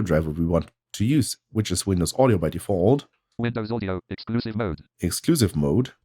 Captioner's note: automated voice